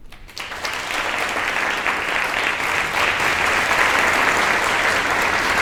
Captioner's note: applause